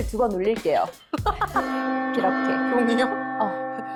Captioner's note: bell rings